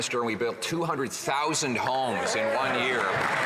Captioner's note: some Applause